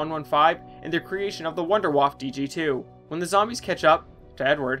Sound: none

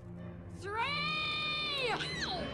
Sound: screams

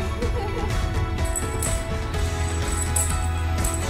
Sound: jingly toy

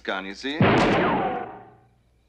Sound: gun is fired

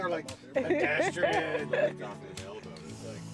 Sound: laughs; laughs

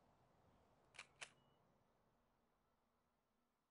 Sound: shutter clicks

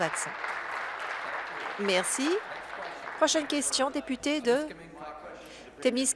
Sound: applause

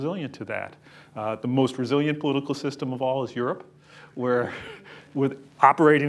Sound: chuckles

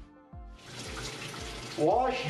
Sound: water splashing

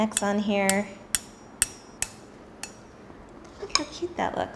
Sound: metal softly clanging

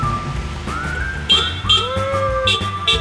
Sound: car horn honks

